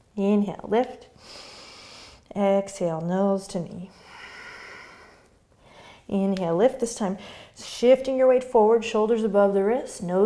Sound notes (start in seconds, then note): 0.0 breathing; 1.2 inhaling; 3.9 exhaling